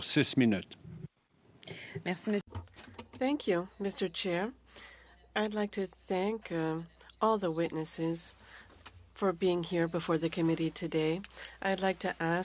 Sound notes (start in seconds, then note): 5.4 speaking in French